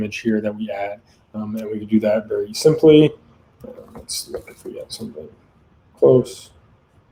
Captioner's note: conversing quietly